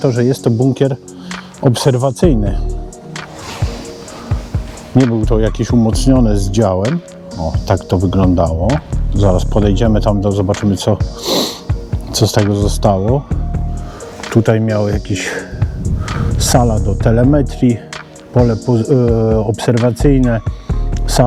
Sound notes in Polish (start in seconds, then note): 11.2 parsknięcie